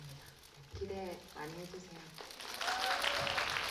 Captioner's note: applause